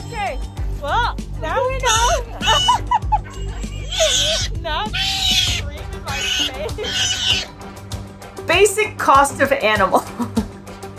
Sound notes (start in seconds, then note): 0.1 background music; 0.1 interrupted by loud vocalizations; 1.5 laughing/chatter; 2.4 background music; 2.4 loud high-pitched scream-like vocalizations; 7.8 background music; 10.0 chuckles